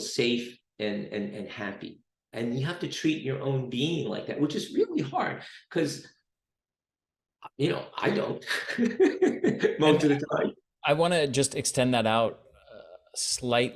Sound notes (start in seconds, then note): 7.9 laughs